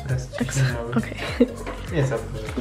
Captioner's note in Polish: śmiech